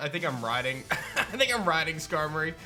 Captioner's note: chuckles